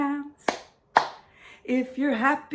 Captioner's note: clap, clap